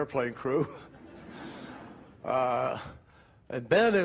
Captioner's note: crowd laughing